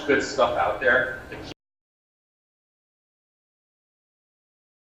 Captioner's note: silence